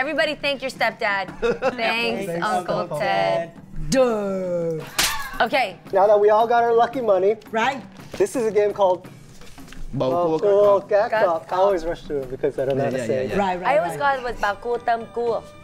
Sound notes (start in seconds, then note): 4.8 slap; 10.1 speaking foreign language; 14.7 speaking foreign language